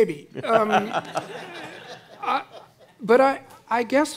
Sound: audience laughing

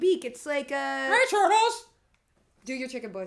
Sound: in chicken voice

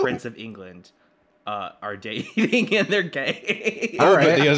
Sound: laughs

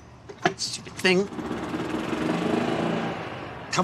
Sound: engine puttering

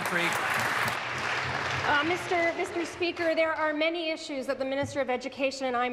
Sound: applause

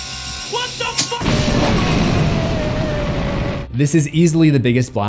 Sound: boom

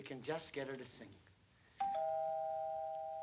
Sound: doorbell rings

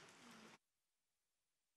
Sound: applause

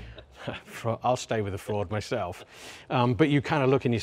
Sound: chuckles

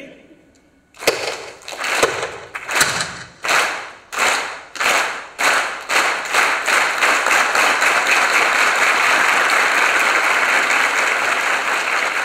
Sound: clapping

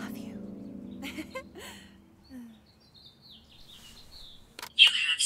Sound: Sheila chuckles

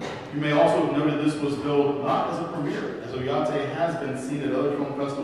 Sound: none

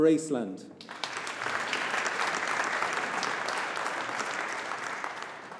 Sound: audience applauding

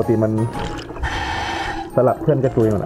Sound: inhale

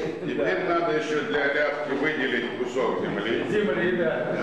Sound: non-english speech

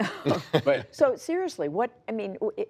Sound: laughter

